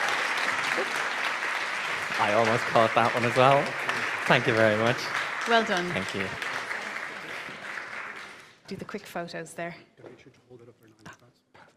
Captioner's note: applause